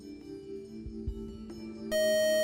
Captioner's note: buzzer